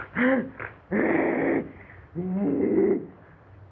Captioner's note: snarling, groaning; screeching